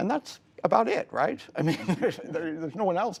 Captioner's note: laughter